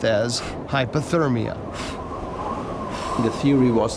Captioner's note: breathing into hands